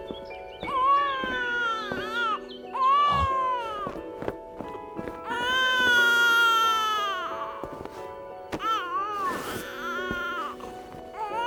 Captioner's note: baby wailing